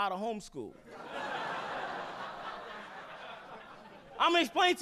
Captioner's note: audience laughing